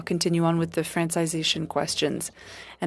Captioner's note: speaking French